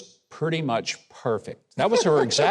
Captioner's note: giggles